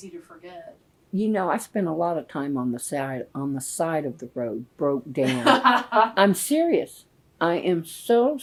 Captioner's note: laughter